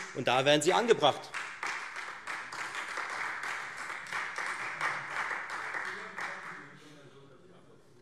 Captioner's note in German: Beifall Freie Demokraten